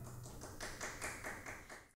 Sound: audience applauds

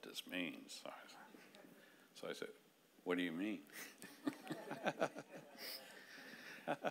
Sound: laughing

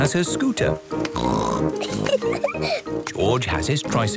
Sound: snorts, giggles

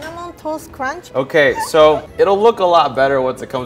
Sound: laughs

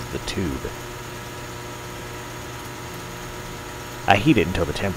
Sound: transformer humming

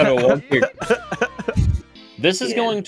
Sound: laughter

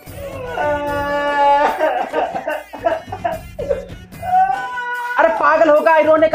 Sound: crying

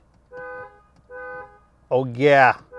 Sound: car honks

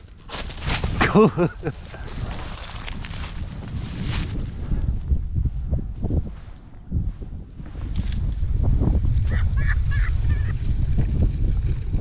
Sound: cackling

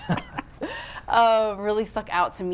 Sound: laughing

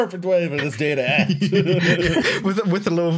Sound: laughter

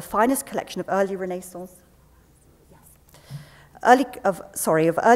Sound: whispering off mic

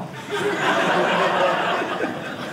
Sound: audience laughing

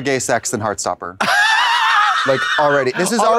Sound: Katya hee-haws

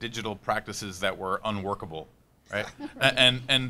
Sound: panelists laughing

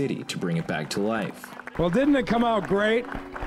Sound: clapping

